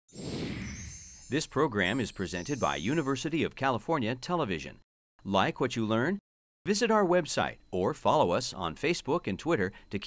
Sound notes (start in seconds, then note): 1.4 voiceover